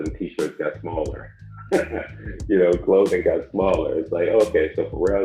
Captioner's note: chuckles